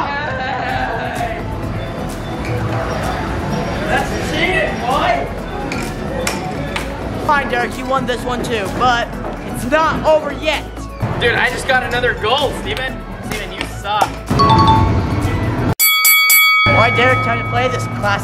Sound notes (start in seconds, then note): 14.3 winning beep; 15.8 bell ringing